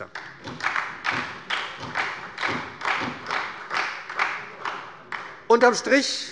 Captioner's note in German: Beifall bei der SPD